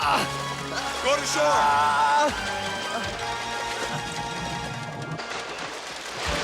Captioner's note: Cheetah yells; Roger yells; tense dramatic music